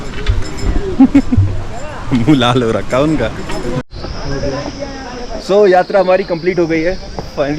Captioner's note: chuckles